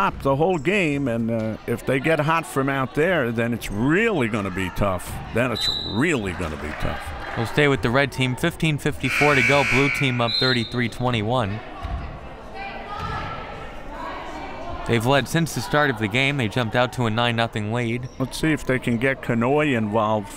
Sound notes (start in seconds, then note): 5.6 whistle; 9.0 buzzer; 9.1 whistle